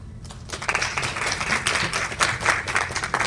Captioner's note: applause